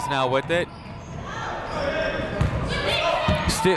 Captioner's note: people shouting in the crowd